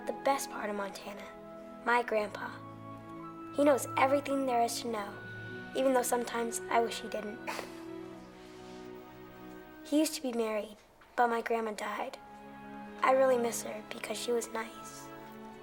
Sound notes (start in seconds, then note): 7.5 Bill chuckles